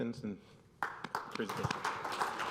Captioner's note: audience applauds